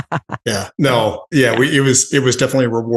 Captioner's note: laughs